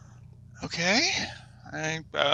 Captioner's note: more heavy breathing